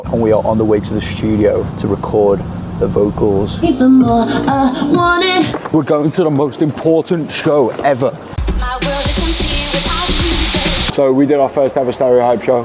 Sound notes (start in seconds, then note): 8.4 loud dance music; 8.6 steam hisses